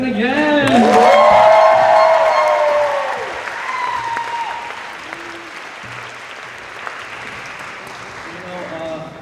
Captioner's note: cheers and applause